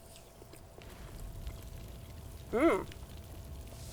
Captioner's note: fire crackling